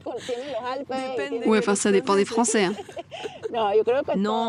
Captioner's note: laughs